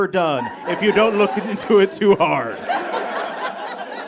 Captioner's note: audience laughs